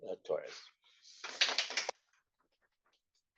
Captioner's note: applause